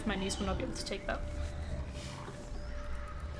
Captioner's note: alien chirping and squeaking coming from the jellyfish